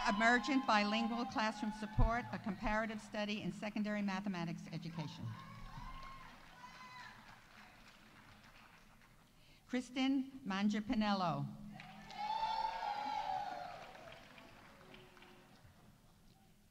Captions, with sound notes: Emergent bilingual classroom support, a comparative study in secondary mathematics education. (audience applauding) Kristen Mangiapanello. -(audience applauding) -(audience cheering)